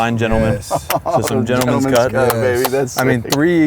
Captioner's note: laughs